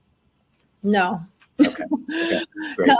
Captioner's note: laughs